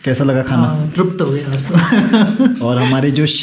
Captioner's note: laughs